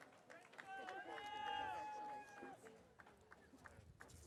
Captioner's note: audience cheering